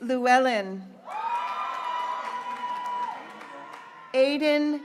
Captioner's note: graduates cheering